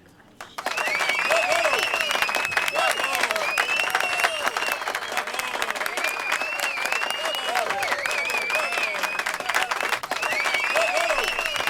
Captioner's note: cheers, applause